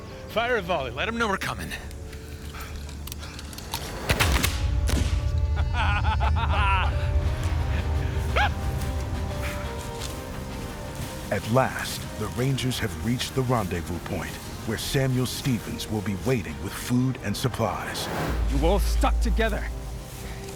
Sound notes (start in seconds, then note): 4.0 gunfire; 5.4 laughter